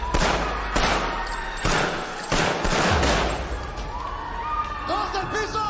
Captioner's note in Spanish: Gritos y algarabía; Disparos